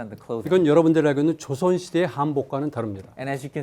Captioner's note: speaking in Korean